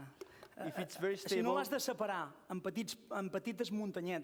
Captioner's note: non-english speech